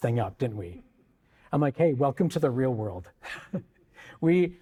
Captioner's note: chuckles